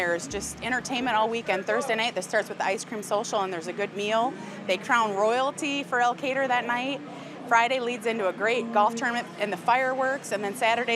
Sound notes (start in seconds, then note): none